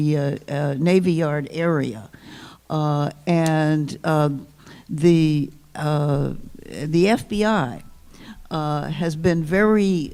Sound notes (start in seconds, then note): none